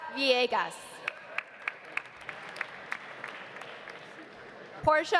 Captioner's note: audience applauding